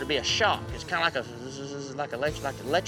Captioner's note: buzzing